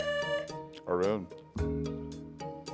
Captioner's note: buzzer sounding